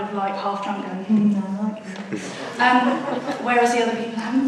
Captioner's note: audience laughs